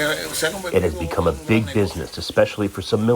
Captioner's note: through translator